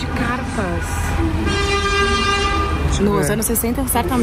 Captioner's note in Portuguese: buzinas